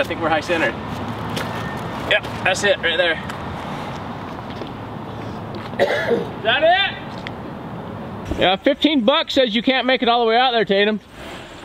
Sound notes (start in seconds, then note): 5.7 man coughs